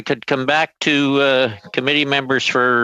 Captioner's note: speaking French